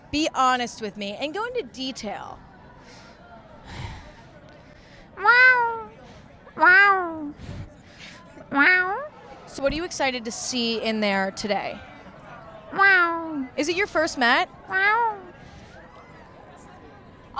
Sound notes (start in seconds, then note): 5.2 meowing; 12.7 meowing; 14.7 meowing